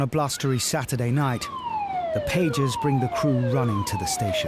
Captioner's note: siren blaring